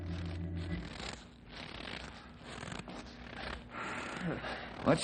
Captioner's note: snoring